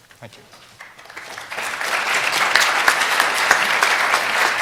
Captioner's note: applause